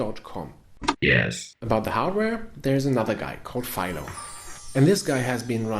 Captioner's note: robotic voice